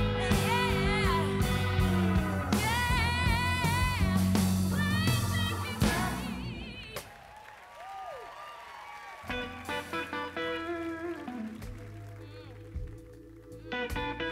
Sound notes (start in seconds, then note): 7.1 crowd cheers; 9.3 soft guitar music